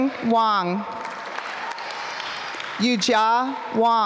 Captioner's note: applause